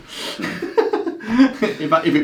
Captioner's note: laughs